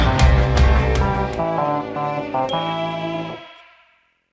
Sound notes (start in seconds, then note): 0.0 upbeat music continues; 2.4 bell dings